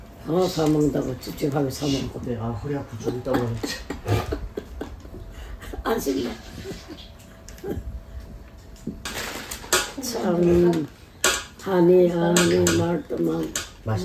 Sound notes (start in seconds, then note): 4.4 laughing